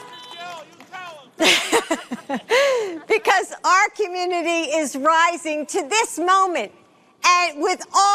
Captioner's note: horns honking